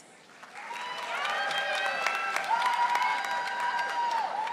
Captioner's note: audience applauding